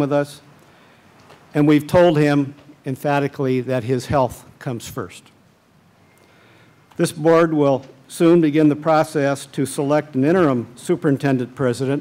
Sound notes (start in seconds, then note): none